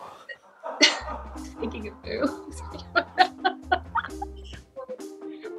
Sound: strains; laughs

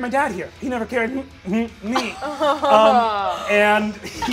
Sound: stuttering

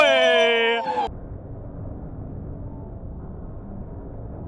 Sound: bell ringing; air whooshing

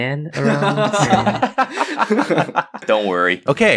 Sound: laughing

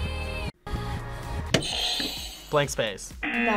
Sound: backwards music; buzzer; buzzer rings

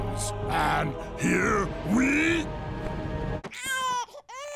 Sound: crying

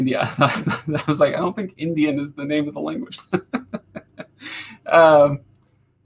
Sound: laughs

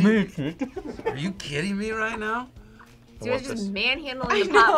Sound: laughs

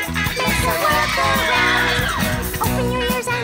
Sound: crowd screaming

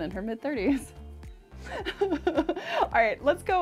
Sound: laughing

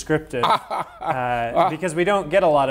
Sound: laughing

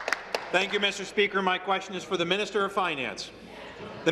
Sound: applause; cheers

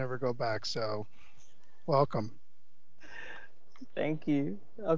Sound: members laughing

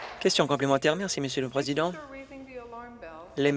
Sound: applause

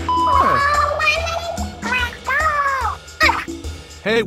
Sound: Disappointed Inkling noises

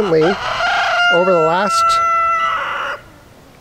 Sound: rooster crowing

